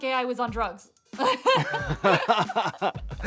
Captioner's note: laughter